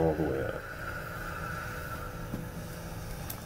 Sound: breathing all the way out

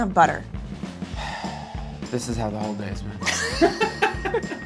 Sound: sighs; laughter

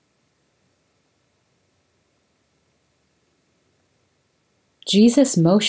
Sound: silence

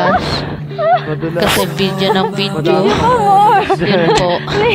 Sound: hehhehe

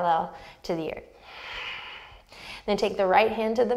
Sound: deep breath

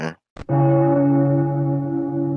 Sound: church bell

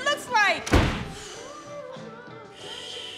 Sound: door slamming

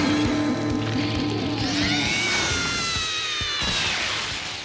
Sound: screaming

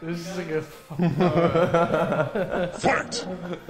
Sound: laughter

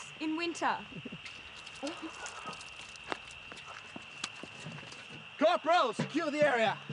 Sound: petrol splashing

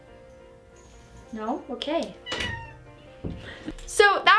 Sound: cat meows; door closes

